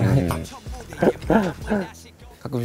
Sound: haha

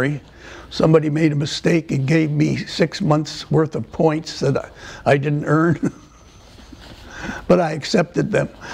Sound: laughter

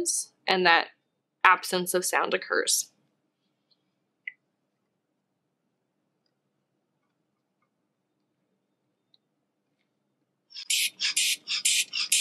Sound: silence

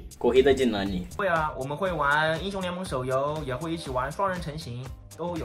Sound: speaking in foreign language

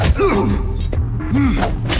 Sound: groan

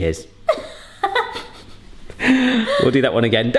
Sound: laughing

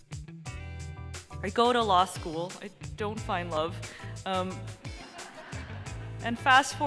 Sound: laughter

